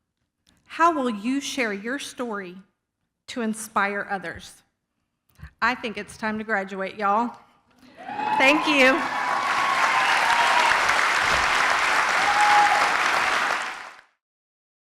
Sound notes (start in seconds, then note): 9.7 applause and cheers